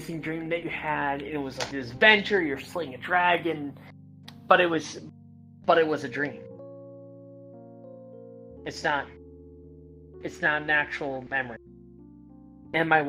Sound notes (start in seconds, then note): none